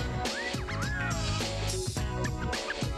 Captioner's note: wolf whistle